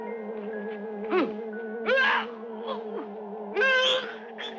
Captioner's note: mysterious orchestral music; man groaning